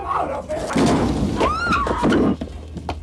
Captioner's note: gun firing; people screaming